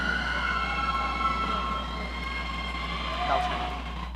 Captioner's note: audience cheering